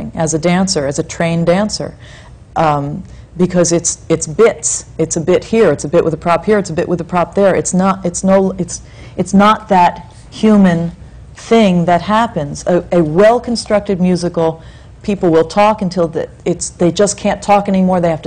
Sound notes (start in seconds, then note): none